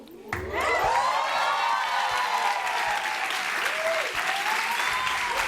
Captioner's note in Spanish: Aplausos